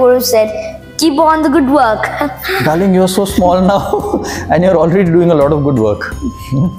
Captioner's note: laugh